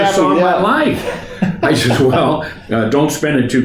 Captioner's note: laughs